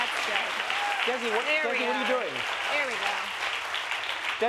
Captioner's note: applause